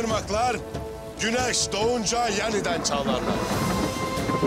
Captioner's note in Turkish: Gök gürlüyor